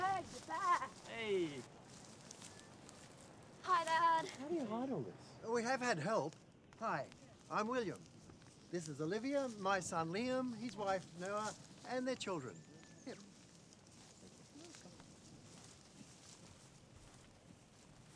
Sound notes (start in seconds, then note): 14.0 group chattering